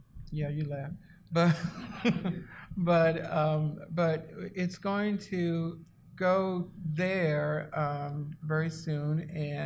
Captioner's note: laughs